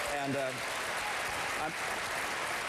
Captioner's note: applause